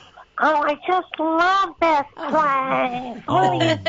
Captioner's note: mimicking baby talk; laughs